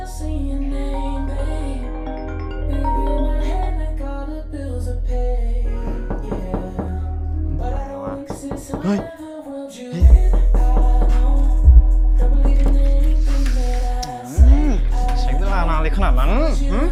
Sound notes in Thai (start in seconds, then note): 1.3 สายเรียกเข้า